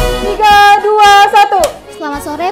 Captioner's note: clap